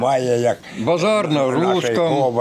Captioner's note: speaks